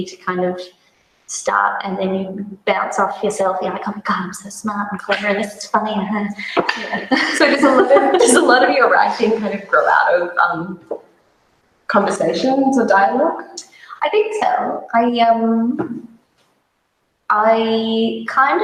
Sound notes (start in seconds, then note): 6.4 laughs